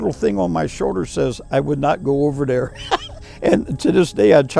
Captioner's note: chuckles